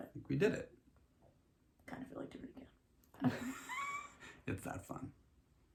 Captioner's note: laughs